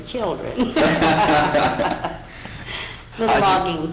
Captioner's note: laughter